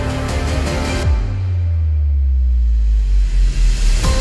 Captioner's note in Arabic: انفجار ممل